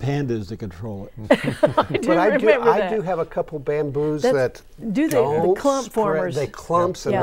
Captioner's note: laughing